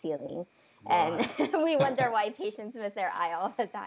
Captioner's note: laughs